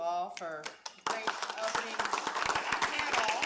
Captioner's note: applause